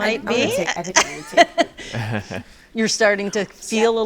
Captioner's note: all laughing